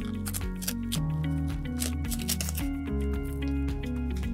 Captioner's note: Velcro scratching